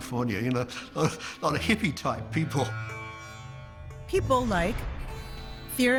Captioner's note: chuckles